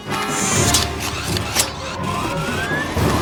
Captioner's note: intense dramatic music; robot whirs; blade clinks; robot whirs and spins